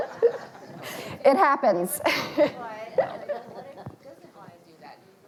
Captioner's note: audience laughing lightly